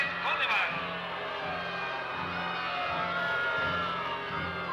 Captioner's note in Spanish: abucheos